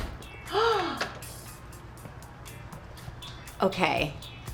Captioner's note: Jillian gasps